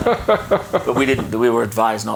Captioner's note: chuckling